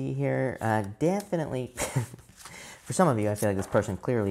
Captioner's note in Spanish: se ríe